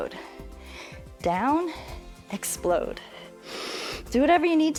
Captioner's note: inhales